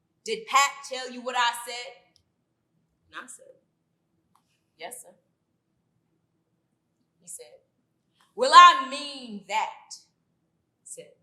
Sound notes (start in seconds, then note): none